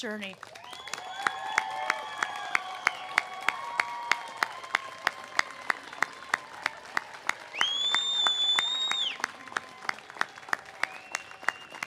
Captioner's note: cheers and applause